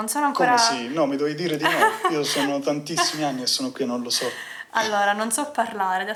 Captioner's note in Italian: risate